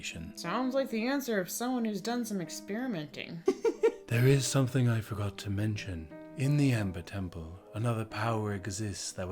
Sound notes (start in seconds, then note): 3.4 giggles